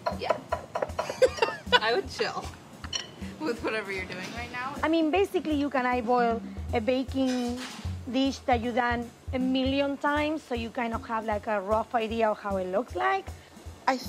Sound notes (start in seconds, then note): 1.1 laughs